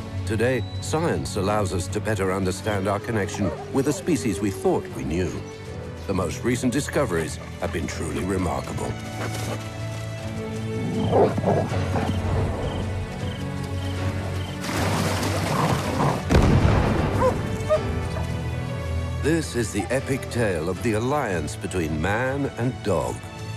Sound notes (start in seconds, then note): 10.7 dogs barking; 12.9 water splashing; 16.2 booming; 17.2 dog barking